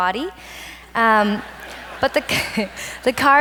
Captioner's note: audience laughs